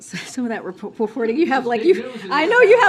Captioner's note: laughter